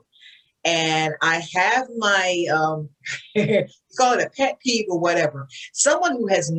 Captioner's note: laughs